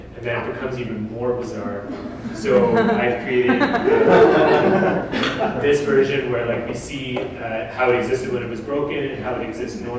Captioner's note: audience: Laughter